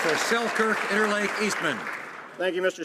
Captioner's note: some Applause